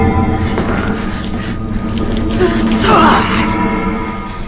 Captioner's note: grunting; chain rattling